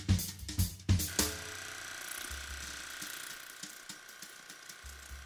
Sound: upbeat music; toothbrush vibrating

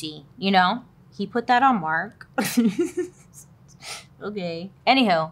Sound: laughs

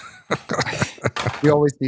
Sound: laughter

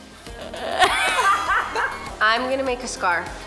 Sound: laughing

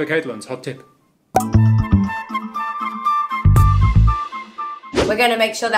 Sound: pop; whoosh

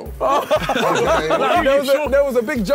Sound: all laughing; group chattering

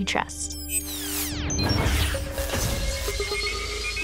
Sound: synthesized whoosh

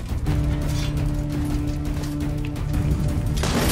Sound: none

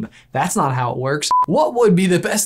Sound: beep

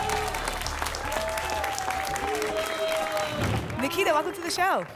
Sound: applause and cheering

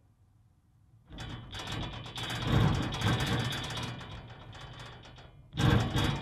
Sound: mechanical sounds

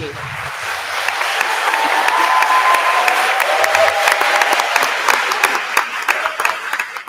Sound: attendees applauding; attendees cheering

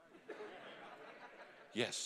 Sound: congregation laughing

